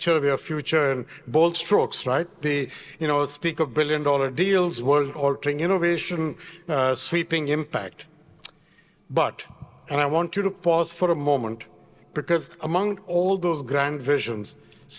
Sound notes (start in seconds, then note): none